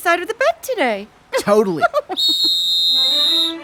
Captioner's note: whistle blows; classical music plays